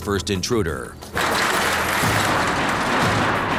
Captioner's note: clanging